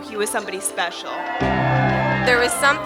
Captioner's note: crowd cheering